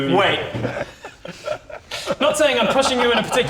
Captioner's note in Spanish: Risas